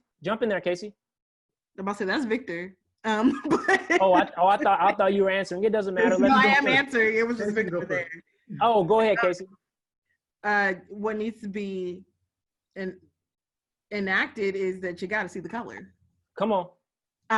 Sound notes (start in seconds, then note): 3.4 laugh